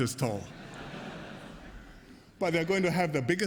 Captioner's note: laughter